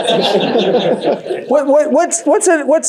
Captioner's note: audience laughs